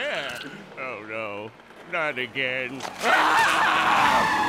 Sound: screaming

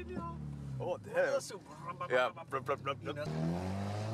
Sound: the boys imitating car sounds

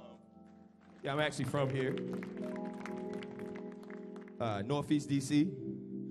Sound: audience applauding

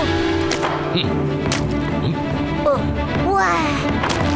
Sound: wet sloshes

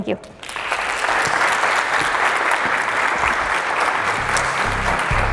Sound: applause

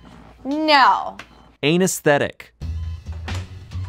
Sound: voiceover

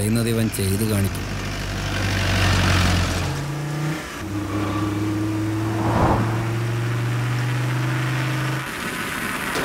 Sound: car Sound

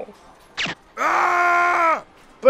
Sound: gun shoots

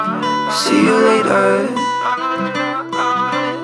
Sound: vocalizing

